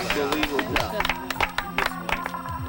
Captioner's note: apapplplauausese